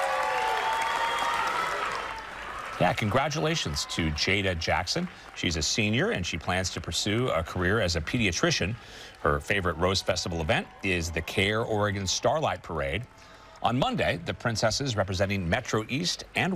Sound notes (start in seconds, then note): 7.0 applause